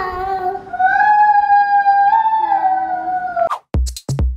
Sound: howls; techno music

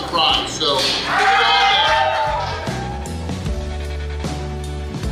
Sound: crowd cheers; hopeful music plays

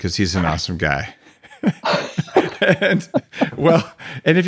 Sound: laughing

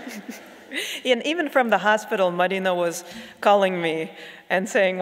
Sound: audience laughs

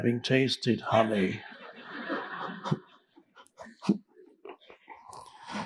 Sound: audience chuckling

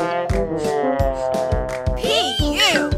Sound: sniffing

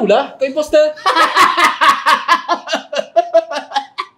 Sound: evil laugh

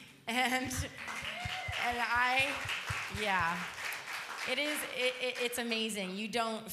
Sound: applause

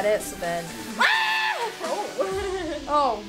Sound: wailing

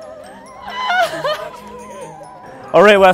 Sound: cries

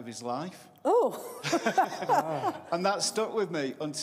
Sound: laughter

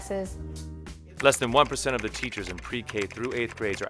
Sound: voiceover

